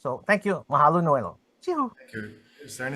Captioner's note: speakings foreign language